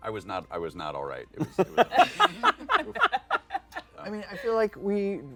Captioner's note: laughter